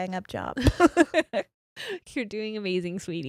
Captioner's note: both laughs